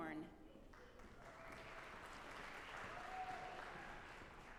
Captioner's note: audience applauding